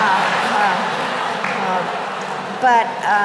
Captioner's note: laughter